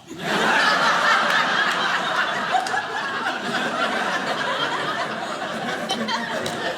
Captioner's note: audience laughing